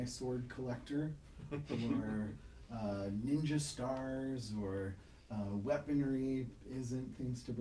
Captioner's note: laughing